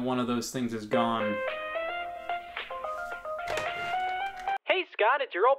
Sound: phone ringing; phone ringing

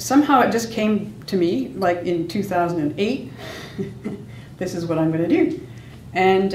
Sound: laughs

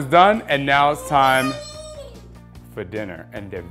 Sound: baby noise

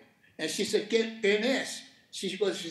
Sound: speaking Spanish

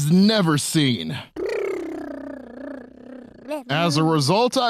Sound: cute baby sounds

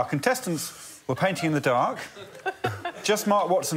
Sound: laughter

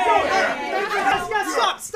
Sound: cheering

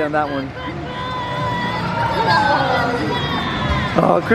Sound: minions screaming

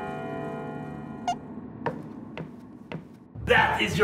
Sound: shoulder squeaks

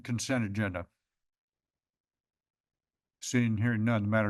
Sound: pause

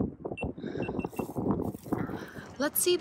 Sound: beeping

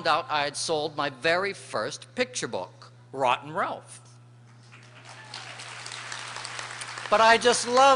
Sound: applause

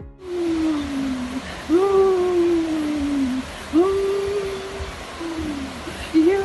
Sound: uncontrollable moaning

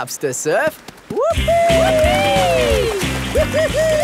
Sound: both whooping

